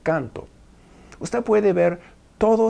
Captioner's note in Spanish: Arabic